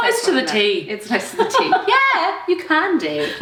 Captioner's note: laughs